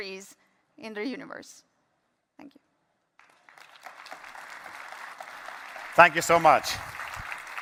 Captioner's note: applause